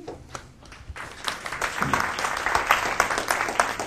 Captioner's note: applause